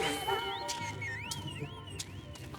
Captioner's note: whistling